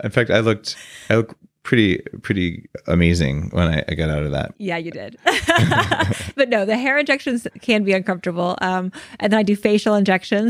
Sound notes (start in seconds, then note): 5.2 laughing